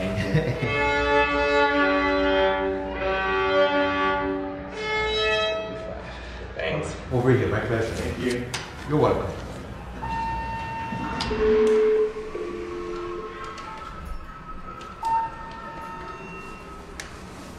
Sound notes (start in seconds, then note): 0.0 laughs; 0.5 violin playing; 9.7 elevator dinging